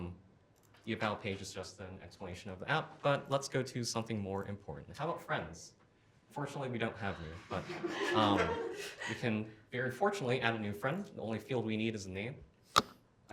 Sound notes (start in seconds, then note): 7.0 laughter